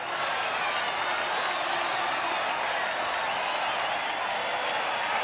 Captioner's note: crowd cheering and applauding